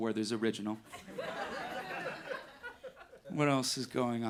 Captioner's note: audience laughing